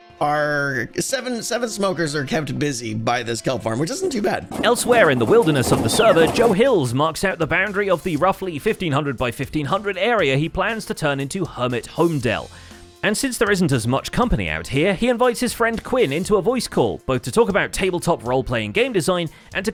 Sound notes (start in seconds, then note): 4.0 washing machine rattles